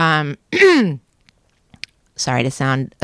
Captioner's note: clearing throat